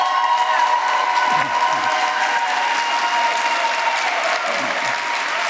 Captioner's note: applause